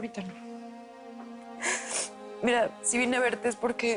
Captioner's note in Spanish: Sollozos